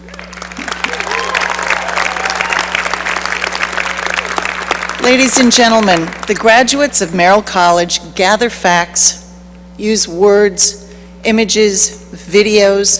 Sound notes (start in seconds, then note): 0.0 cheering and applause